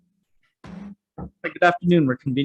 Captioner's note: gavel strikes